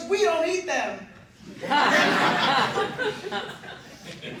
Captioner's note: laughter